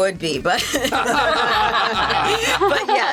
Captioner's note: all laughing